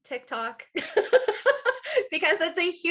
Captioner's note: laughing